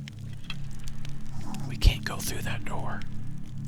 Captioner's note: whispering